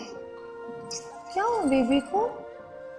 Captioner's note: kiss